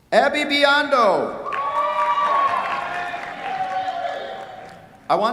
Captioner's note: cheers, applause